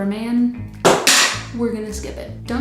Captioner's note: clattering